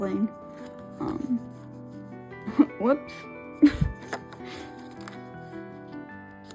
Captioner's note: laughing